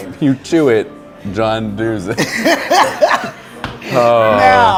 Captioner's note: laughter